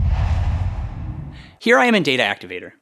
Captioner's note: logo swooshes